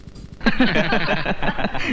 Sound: laughing

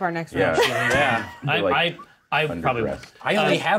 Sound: co-hosts laughing

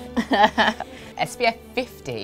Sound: laughing

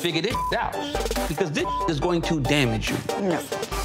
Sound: beep

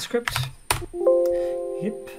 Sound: error message pings

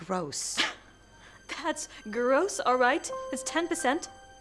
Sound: scoffs

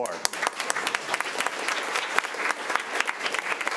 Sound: all clapping

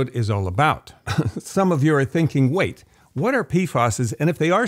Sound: laughs

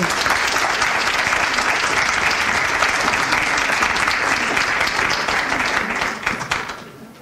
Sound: audience applauds

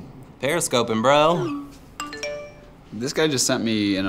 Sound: text alert

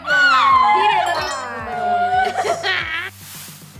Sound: ding

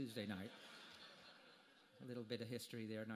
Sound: audience laughter

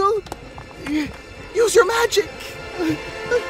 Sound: gasp; Silver Spoon panic noises

